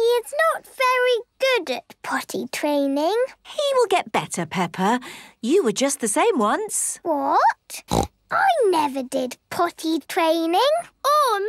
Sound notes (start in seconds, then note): 7.8 snorts